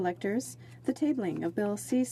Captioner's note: speaking French